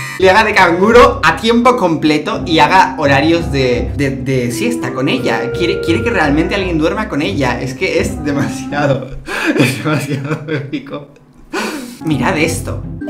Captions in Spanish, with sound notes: le haga de canguro a tiempo completo y haga horarios de... de-de siesta con ella quiere-quiere que realmente alguien duerma con ella es que demasiado *risa* es demasiado épico *risas* Mirad esto